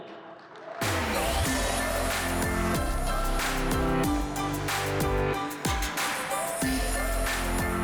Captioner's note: applause